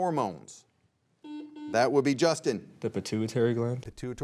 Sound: buzzer beeps twice

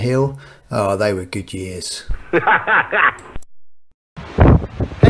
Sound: laughs

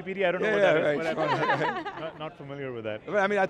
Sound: laughs

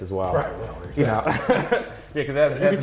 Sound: laughs

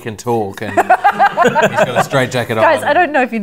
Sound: laughter

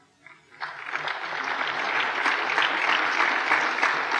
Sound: applause

